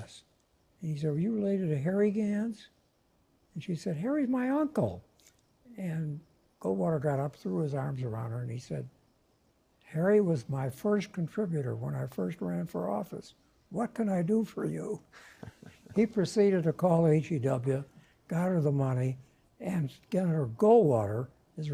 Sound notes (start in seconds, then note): 15.1 laugh